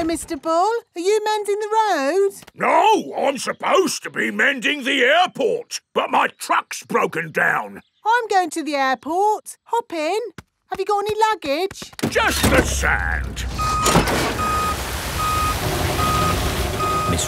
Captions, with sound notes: Hello, Mr. Bull. Are you mending the road? No. I'm supposed to be mending the airport, but my truck's broken down. I'm going to the airport. Hop in! -Have you got any luggage? -Just the sand. (BEEPING)